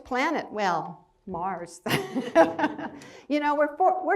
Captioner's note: laughs